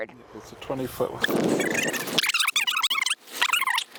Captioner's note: high-pitched screeching